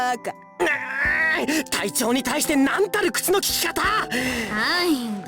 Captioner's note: seething